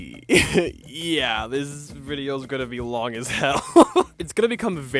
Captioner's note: nervous laughing